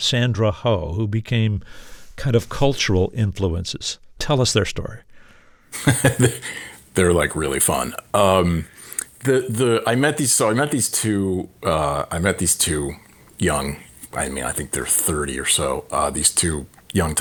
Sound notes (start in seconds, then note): 5.7 laughter